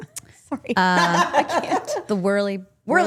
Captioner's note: laughs